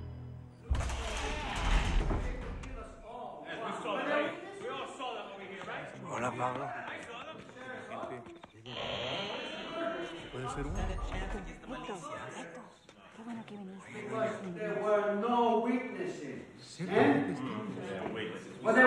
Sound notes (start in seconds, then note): 8.2 overlapping chattering